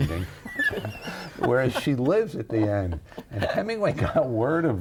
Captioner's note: laughing